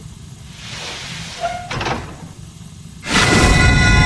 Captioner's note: door opens